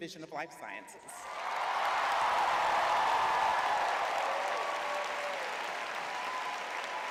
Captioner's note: crowd cheering